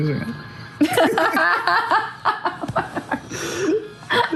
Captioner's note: laughter